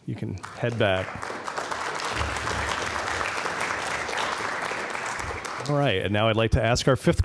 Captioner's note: applause